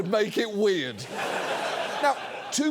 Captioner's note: studio audience laughs